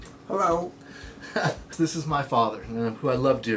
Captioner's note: chuckling